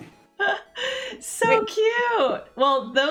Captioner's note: laughs